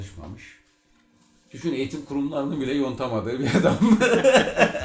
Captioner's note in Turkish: kahkaha atar